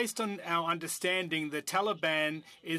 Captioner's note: speaking French